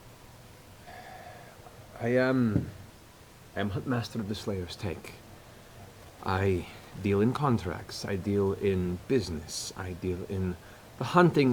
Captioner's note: sighs